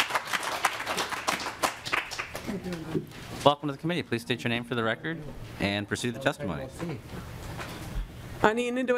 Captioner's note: applause